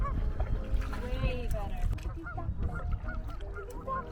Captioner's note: water splashing